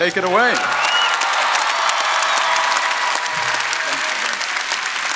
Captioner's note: audience applauding